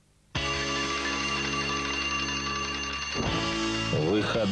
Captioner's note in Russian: звон будильника